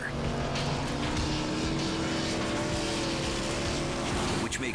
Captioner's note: engine roaring